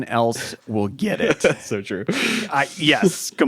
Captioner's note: chuckles